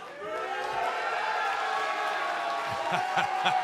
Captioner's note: cheers and boos; laughter